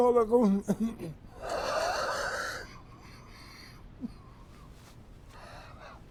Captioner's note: coughing